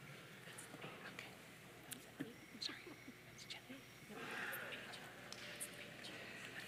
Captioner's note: participants chattering off microphone